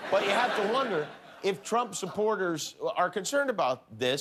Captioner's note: laughter